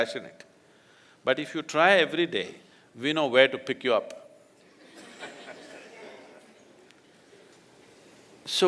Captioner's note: laughter